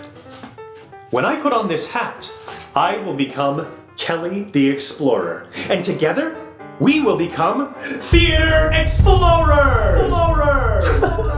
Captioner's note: echos, then laughs